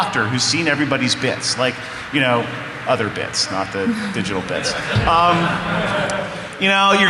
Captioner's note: laughter